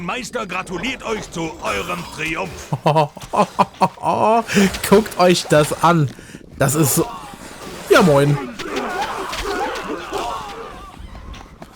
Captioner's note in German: gelächter